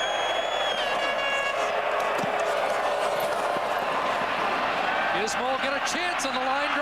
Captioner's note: cheers/Applause